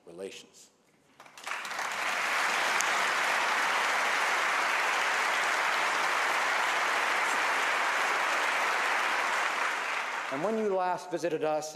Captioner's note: applause